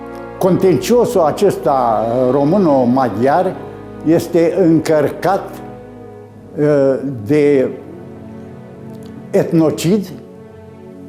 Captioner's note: Hungarian